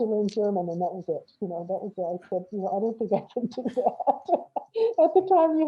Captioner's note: laughs